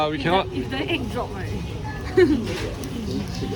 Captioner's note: chuckles